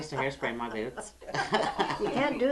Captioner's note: laughter